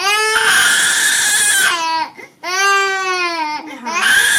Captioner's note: baby crying